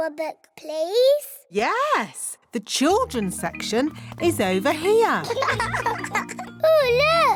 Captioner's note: laughter